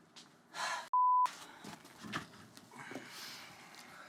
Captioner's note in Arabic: تتنهد